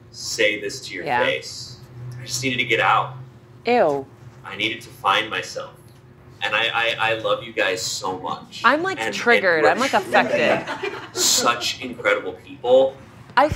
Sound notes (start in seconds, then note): 10.6 crew laughing